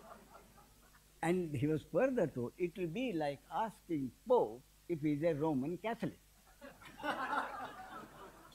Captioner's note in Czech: smích